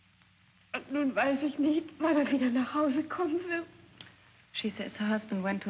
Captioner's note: speaking in German